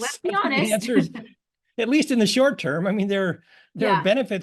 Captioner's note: laugh